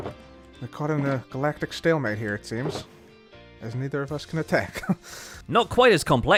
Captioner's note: chuckles